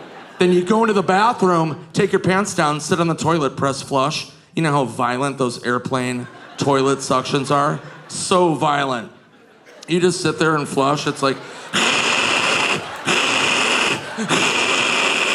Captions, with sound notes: Then you go into the bathroom, take your pants down, sit on the toilet, press flush. You know how violent those airplane toilet suctions are? So violent. You just sit there and flush. It's like (imitates loud suction).